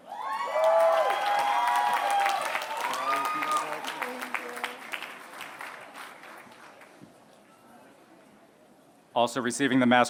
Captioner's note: applause